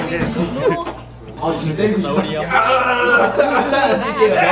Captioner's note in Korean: 소리치며